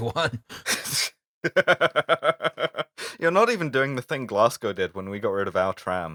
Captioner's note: laughter